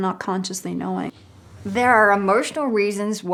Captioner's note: whooshing